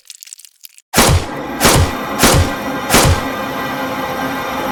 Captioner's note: gun banging; suspenseful music